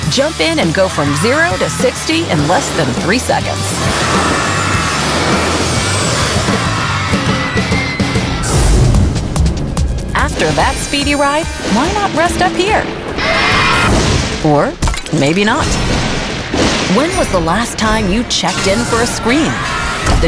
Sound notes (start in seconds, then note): 3.3 screaming; 8.7 suspenseful music; 13.2 screaming